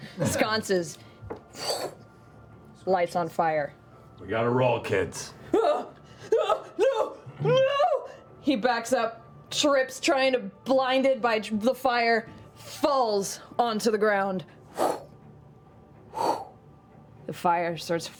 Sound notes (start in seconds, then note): 5.9 yelping